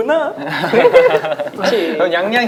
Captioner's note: laughing